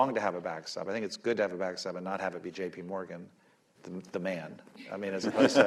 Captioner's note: laughter